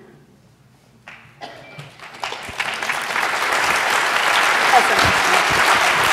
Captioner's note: applause; laughs